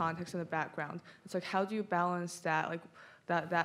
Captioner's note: none